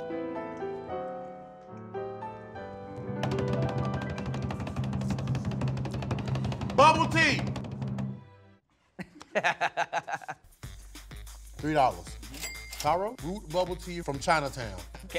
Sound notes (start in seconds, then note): 0.0 classical music; 3.2 drum rolls; 8.9 laughs